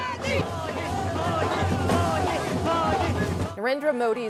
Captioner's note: chants